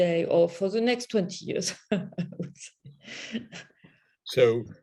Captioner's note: chuckle